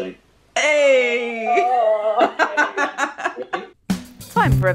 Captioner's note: laughter